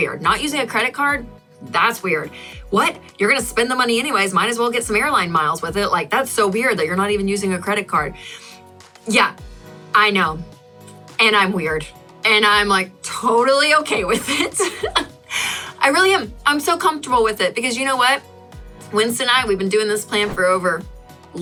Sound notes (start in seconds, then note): 14.0 laughs